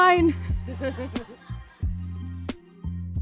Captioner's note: laughter